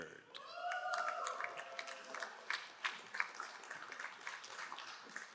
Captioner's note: crowd cheering and applauding